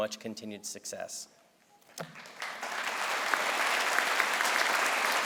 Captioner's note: crowd applauds